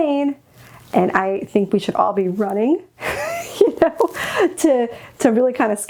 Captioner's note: chuckles